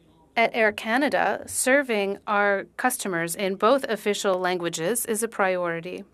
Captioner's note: speaking French